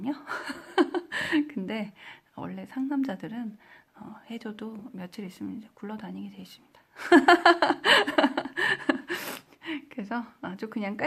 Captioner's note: giggles; giggles